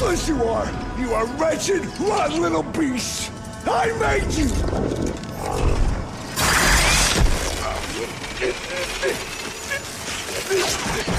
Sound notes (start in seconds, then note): 8.4 grunting